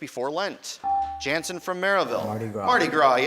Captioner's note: beeping